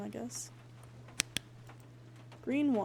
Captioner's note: flashlight Clicks Off